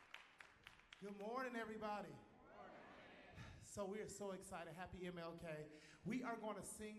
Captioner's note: cheers and applause